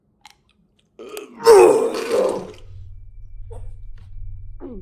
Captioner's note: Chuck retching